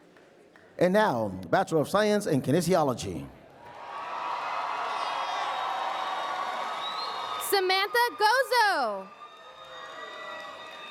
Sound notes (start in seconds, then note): 3.6 applause and Cheering